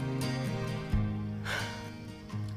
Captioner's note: sighs